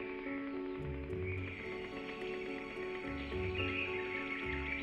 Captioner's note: birds chirping